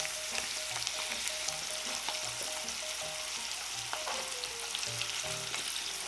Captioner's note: frying sound